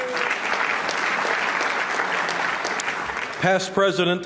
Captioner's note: applause